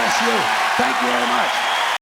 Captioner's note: clapping and cheering